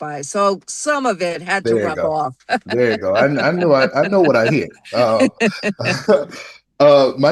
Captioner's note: laughter